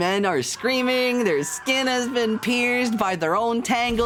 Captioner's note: screaming sfx